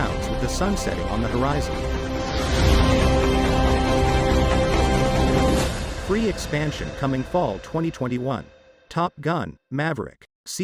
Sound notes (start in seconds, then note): 2.0 jet engine roars